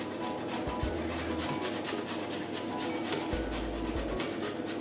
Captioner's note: carrot grates on grater